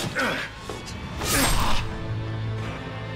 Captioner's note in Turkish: Hançer saplama sesi